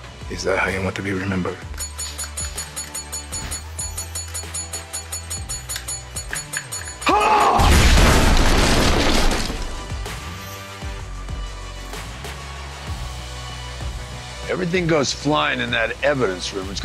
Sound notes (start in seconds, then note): 1.8 ringing; 6.7 yelling; 7.5 explosion